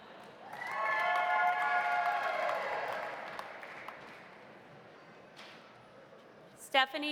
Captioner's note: audience cheering; audience applauding